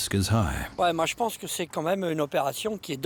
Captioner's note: speaking French